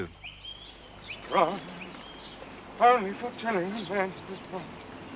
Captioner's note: humming